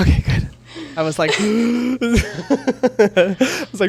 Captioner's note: gasps